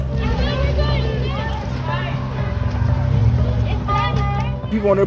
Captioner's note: bystanders talking